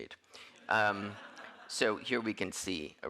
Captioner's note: audience laughing